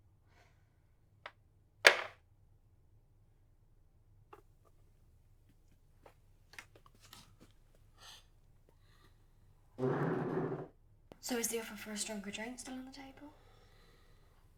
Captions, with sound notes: [chair squeaks] So, is the offer for a stronger drink still on the table?